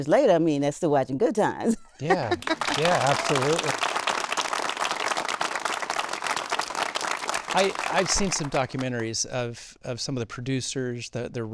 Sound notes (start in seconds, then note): 2.1 audience applauding